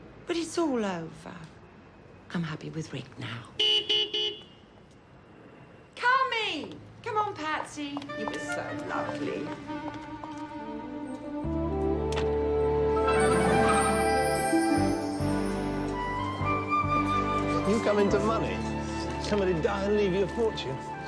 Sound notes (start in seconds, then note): 3.6 car horn honking; 10.2 soft music